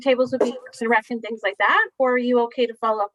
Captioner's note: static audio